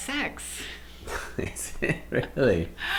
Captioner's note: laughs